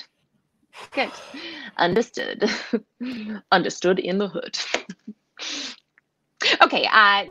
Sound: laughing

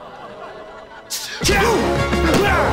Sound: screaming

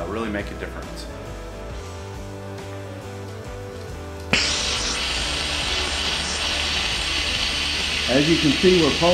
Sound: compressor Air Noise

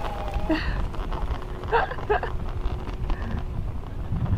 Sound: laughter

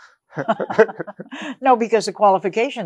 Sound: both laughs

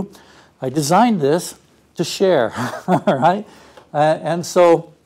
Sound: laugh

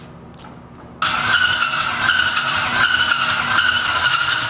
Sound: engine cranking

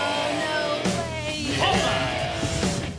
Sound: laughs

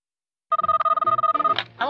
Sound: phone rings

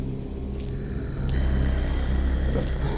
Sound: growling

